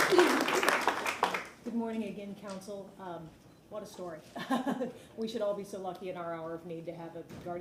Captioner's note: applause